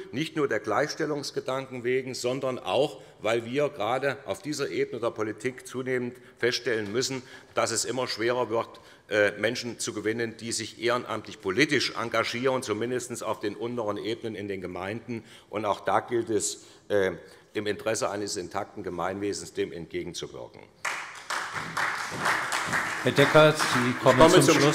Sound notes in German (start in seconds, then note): 20.8 Beifall bei der SPD